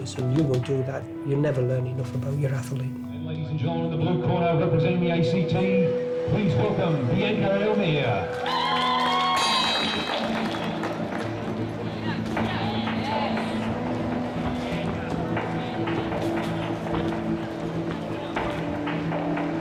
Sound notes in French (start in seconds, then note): 8.2 acclamations de la foule; 9.4 la cloche sonne